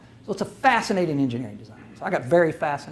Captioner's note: none